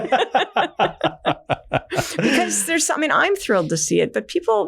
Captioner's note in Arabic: كلاهما يضحك